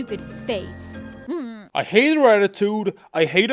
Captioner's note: groans